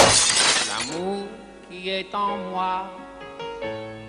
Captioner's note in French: GROSSE chute + verre brisé; voix nasillarde horrible; Musique sirupeuse aux claviers